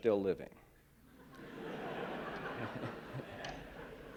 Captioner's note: laughter